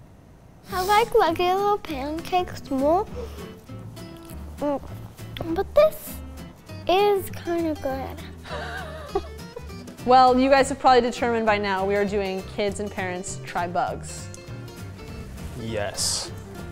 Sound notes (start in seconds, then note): 8.4 laughs; 14.7 upbeat music